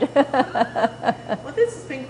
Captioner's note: laughter